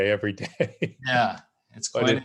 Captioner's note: laughing